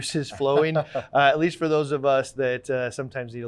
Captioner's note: laughing